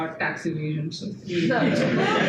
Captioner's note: audience laughs